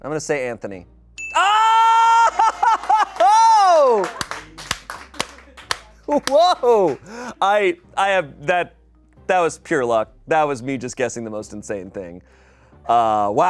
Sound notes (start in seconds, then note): 1.2 bell dings; 3.9 people applaud